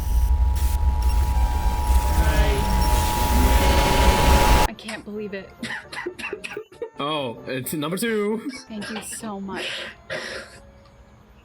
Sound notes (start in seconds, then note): 6.0 laughs; 8.6 laughs